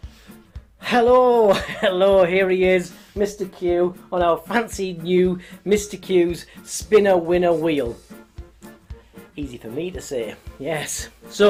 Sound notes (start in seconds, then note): 1.3 laughs